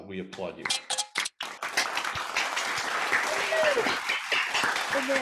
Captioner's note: applause